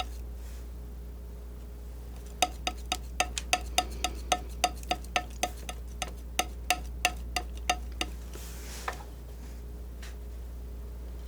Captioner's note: tapping